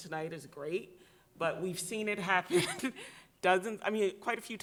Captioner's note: giggles